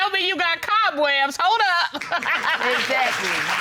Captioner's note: audience applauding